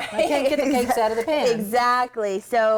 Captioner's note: laughs